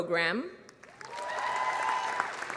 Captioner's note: applause